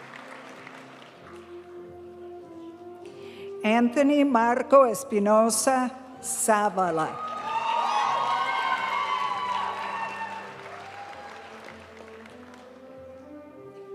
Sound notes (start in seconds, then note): 0.3 graduation music; 7.1 audience cheering and applauding; 10.0 graduation music